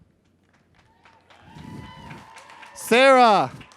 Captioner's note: crowd cheers